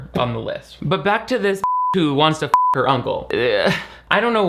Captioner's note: beep